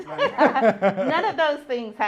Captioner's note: laughs